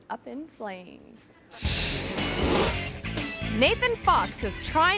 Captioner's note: screen whooshes; upbeat music